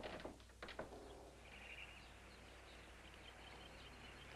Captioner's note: birds chirping